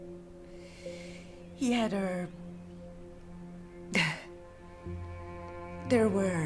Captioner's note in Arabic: تضحك بعصبية